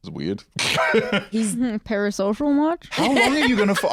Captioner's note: laughs